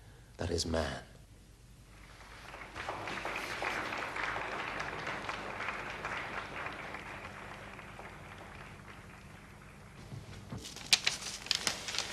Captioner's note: applause